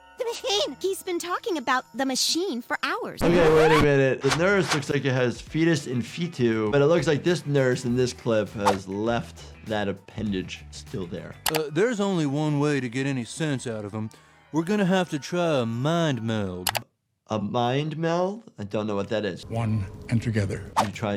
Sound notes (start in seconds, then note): 3.2 record scratches